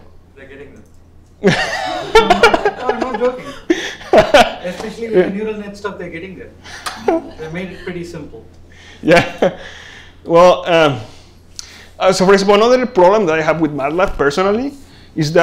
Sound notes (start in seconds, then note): 1.4 laughter